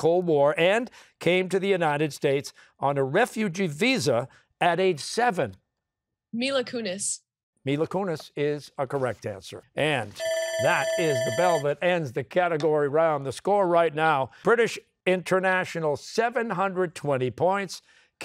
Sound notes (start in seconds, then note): 10.2 bell ringing